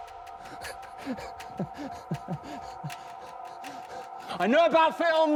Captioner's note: Danny chuckles